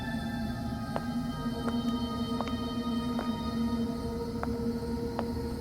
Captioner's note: footsteps